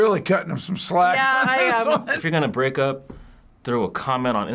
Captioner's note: laughs